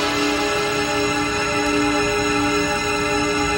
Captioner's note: beeping